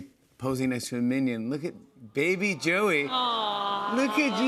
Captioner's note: audience aws